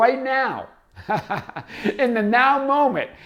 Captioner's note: laughs